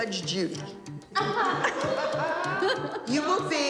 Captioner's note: laughter